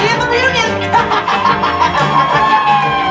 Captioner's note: laughs